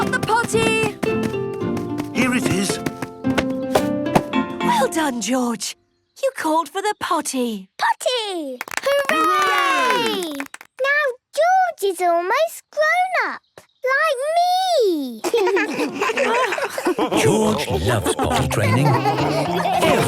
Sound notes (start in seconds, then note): 8.6 cheering, clapping; 15.2 laughs